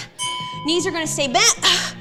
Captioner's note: bell chimes